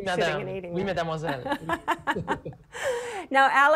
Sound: laughs

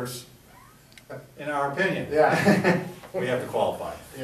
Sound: chuckles

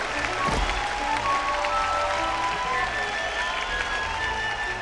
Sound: קהל מריע

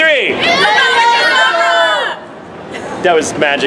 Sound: interpolated shouts

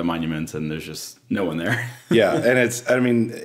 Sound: laughs

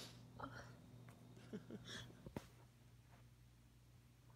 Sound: faint laugh

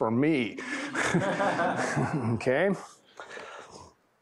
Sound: laughter

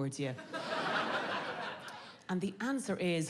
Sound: audience laughing

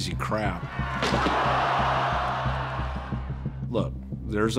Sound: crowd shouting

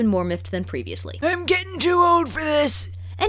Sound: old man voice

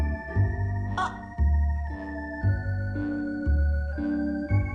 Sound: exclaims

